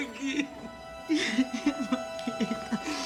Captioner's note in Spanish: Sollozos